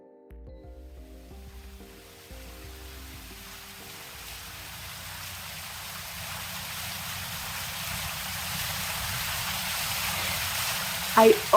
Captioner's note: sound from fountain of water rushing